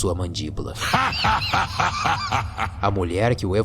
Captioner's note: evil laughs